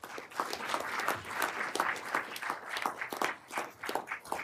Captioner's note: everyone applauding